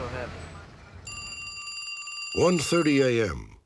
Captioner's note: phone ringing